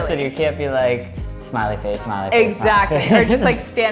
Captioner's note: laughs